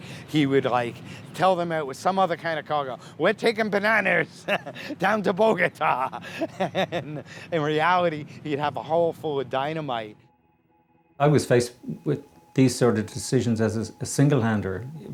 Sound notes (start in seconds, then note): 5.4 laughing